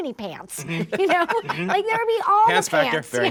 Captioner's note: laughing